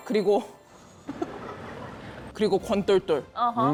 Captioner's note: mocking laughter